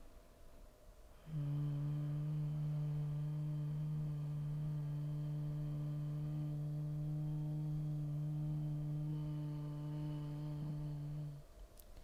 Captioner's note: humming